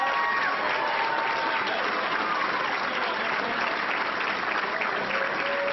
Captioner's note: applause